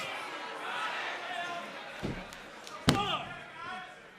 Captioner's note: crowd cheering